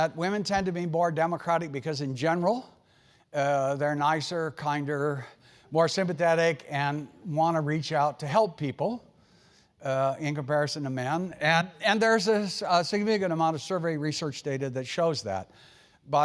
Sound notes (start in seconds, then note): none